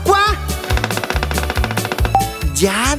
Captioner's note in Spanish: Sonido de pájaro carpintero